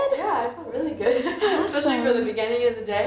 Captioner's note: laughs